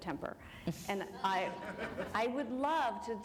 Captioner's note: laughter